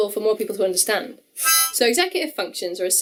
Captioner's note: honk